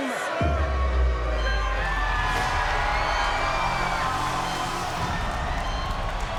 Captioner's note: crowd cheering; dramatic music